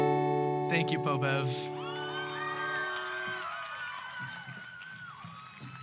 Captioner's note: audience applause